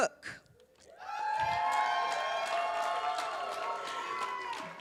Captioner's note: cheers, applause